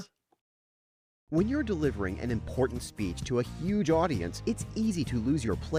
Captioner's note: voiceover